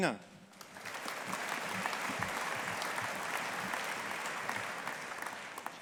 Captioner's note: audience applauding